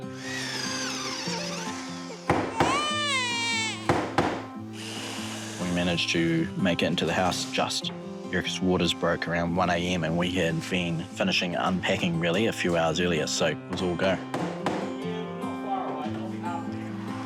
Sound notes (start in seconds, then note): 0.0 drill whirrs, hammer bangs; 2.5 baby cries